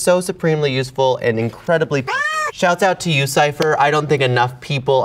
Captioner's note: cat meowing